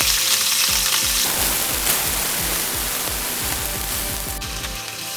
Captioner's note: sizzling sound of fish frying